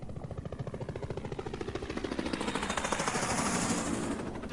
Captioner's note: helicopter sounds